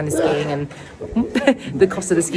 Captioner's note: person sneezes; chuckles